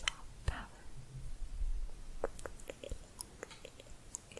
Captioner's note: tongue clicking